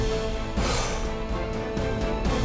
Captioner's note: sighs